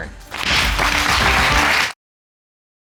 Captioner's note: audience clapping